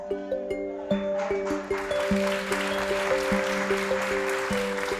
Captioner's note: applause